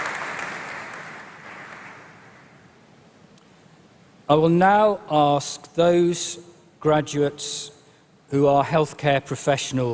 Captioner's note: applause